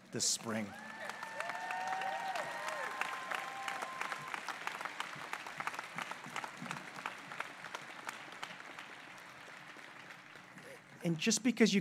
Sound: applause

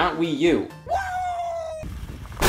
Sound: Scott cheers

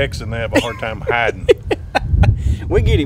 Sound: laughter

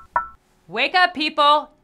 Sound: knocks

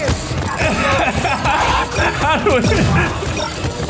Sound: laughing

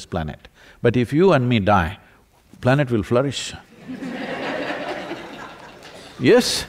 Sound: laughter

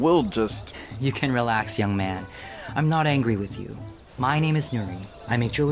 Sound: laughs

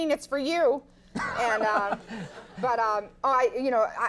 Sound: Conan laughs

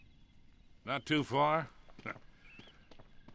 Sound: laugh

